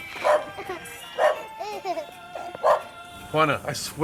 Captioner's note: laughs; dog barking